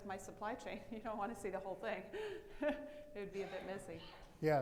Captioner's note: laughs